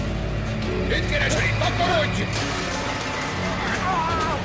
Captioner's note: yelling in native language